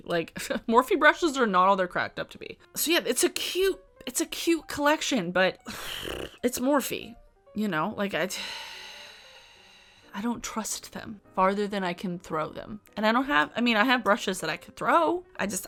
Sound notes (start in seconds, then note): 5.7 blows raspberry; 8.1 sighs